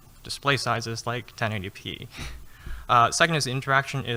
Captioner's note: laughing